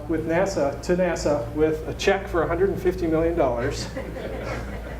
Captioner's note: laughter